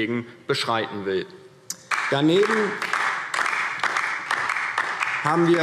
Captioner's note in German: Beifall DIE LINKE